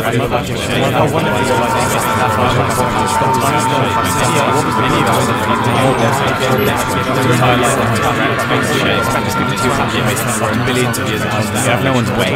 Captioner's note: scream